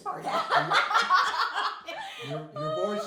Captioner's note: laughing